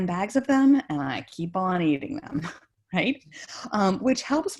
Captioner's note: giggles